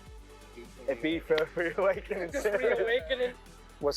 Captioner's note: and crew laugh